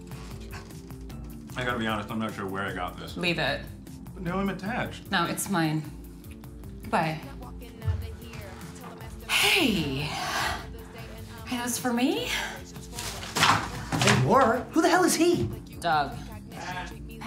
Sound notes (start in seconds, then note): 9.7 sighs